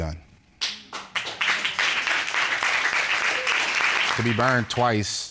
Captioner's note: applause